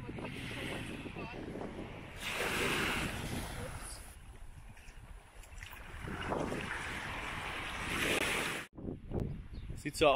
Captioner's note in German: Brandungsrauschen